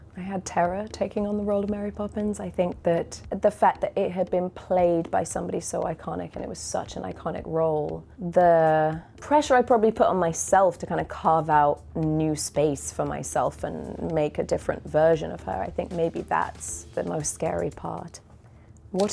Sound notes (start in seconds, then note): none